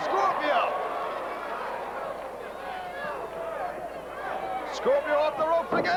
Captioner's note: crowd cheering